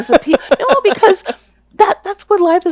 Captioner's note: laughing